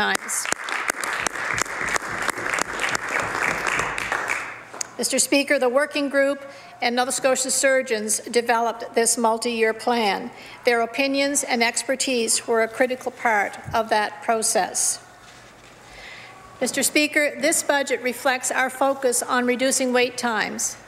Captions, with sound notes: TO THE SIX-MONTH NATIONAL STANDARD FOR WAIT TIMES. [ Some Applause ] Mr. SPEAKER, THE WORKING GROUP AND NOVA SCOTIA SURGEONS DEVELOPED THIS PLAN. THEIR OPINIONS AND EXPERTISE WERE A CRITICAL PART OF THAT PROCESS. Mr. SPEAKER, THIS BUDGET